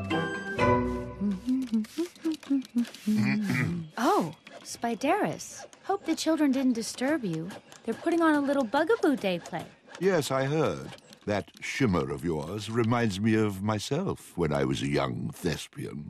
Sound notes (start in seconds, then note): 0.0 humming; 3.1 clears throat